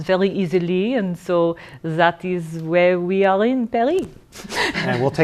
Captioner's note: laughter